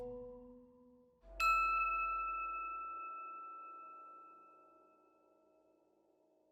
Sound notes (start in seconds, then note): 1.4 logo dings